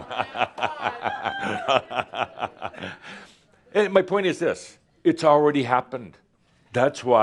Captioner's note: laughter; Adamus chuckles